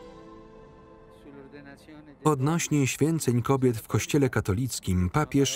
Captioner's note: in Italian